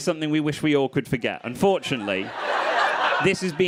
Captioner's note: crowd laughing